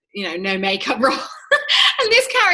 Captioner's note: laughs